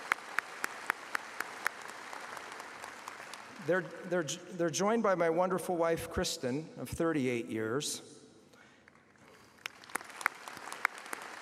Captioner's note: applause